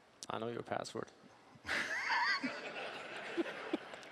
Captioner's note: laughing